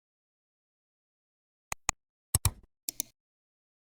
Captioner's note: 3 different clicks